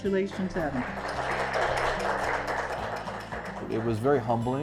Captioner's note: attendees applauding